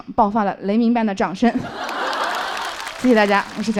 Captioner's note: thunderous applause erupts from the audience